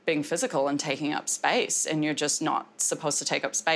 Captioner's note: none